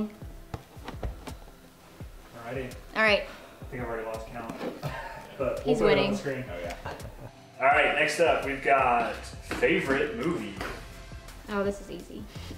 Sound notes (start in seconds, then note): 5.9 laughing